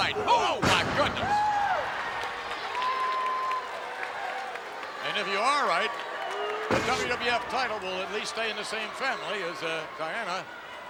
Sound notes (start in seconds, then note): 1.3 crowd cheering